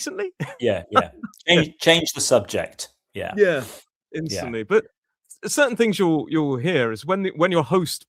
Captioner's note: snorts